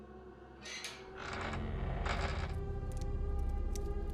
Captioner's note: door creaking; soft intense music